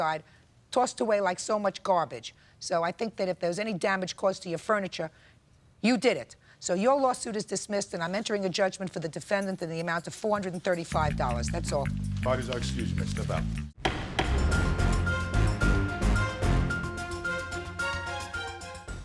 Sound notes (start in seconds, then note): 13.8 gavel bangs; 14.8 dramatic music